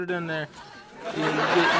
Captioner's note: hysterical laughter resumes